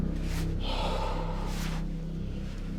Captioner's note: exhales